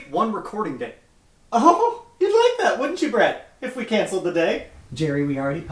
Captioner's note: scoffs